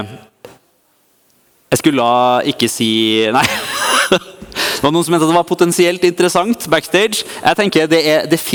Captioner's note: laugh